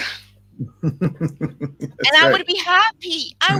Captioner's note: laughs